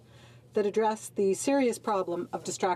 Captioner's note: speaking in French